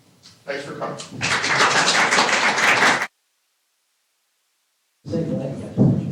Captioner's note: applause